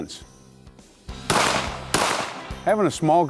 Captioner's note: gun fires twice